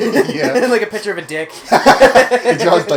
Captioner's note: laughing